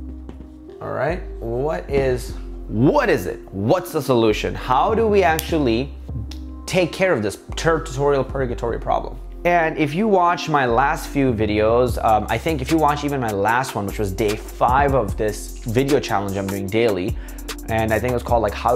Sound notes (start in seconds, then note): 6.2 clicks tongue